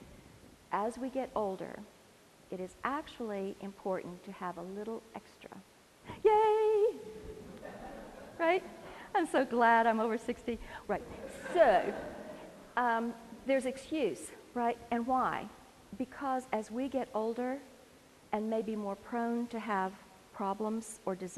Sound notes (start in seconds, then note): 7.4 laughter; 10.9 laugh